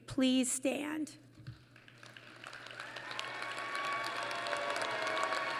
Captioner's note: applause